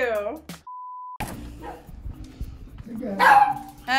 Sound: beep; dog bark

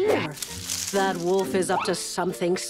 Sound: none

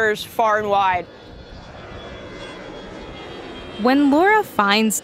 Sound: airplane engine rumbling

